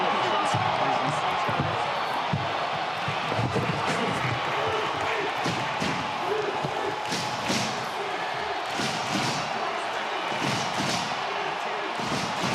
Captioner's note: crowd chatter